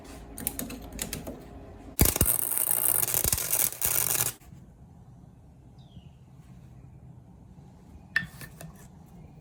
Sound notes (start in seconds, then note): 2.0 crackling